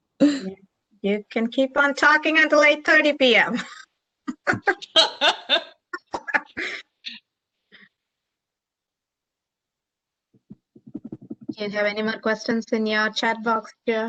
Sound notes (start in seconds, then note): 4.2 laughter